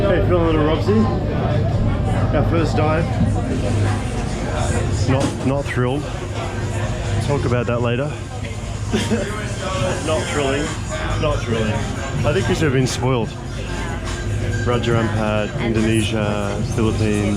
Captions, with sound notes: How do you feel little Robs-y? That first dive. Not thrilled. Talk about that later. (laughs) Not thrilling, not thrilling. I think you should have been spoiled. - Wow. - Raja Ampat, Indonesia, Philippines.